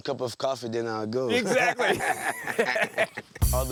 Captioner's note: laughs